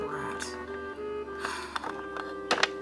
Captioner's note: sigh